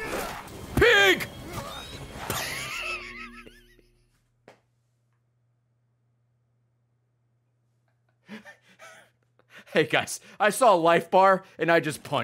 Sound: laughs

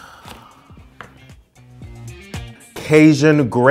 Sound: gasps

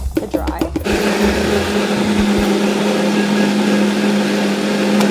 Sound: blender loudly rumbling

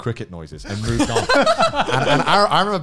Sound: laughing

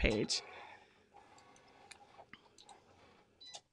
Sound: Cricut whirs

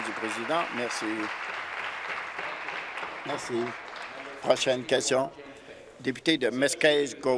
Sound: applause

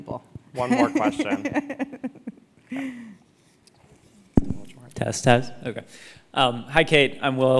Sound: laugh

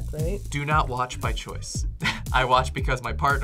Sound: laughs

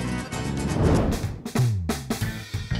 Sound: whooshing; upbeat music

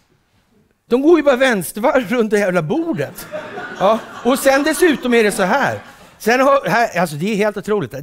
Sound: laughter

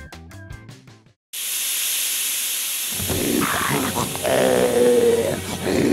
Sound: hissing of steam and disgruntled snarls

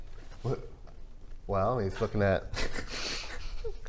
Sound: giggles

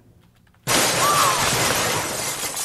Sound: crash

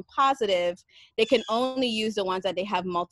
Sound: birds chirping

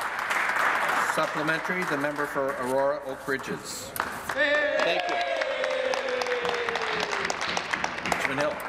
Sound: applause

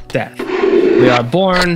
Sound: chalk scraping

